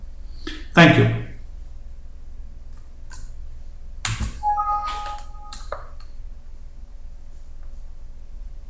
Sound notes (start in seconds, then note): 4.4 computer chiming